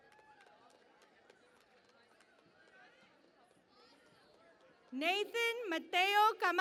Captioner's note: cheering and Applause